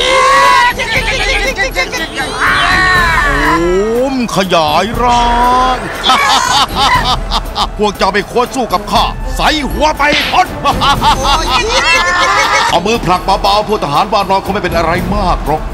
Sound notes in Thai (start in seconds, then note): 5.8 หัวเราะ; 10.6 หัวเราะ